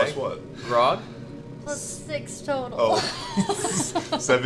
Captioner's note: laughs